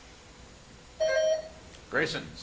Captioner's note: buzzer chimes